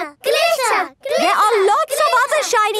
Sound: chanting

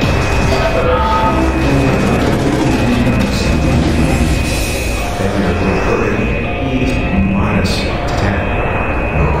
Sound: very Distorted Chime

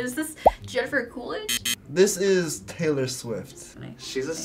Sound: buzzer

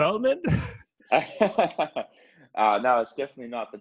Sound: laugh

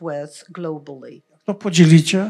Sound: foreign language

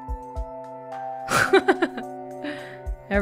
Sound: chuckles

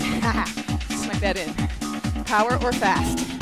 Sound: laughs

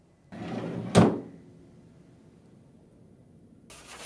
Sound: drawer bangs open; tickets shuffling

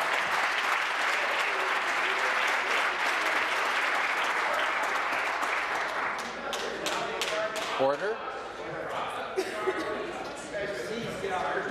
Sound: applause

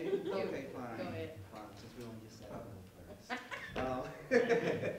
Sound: laughs

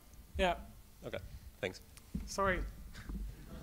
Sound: voiceover

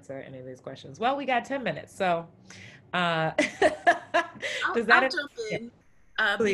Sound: laughs

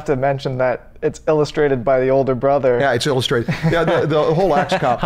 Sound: chuckles

